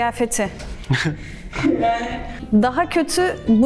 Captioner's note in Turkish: Gülüşmeler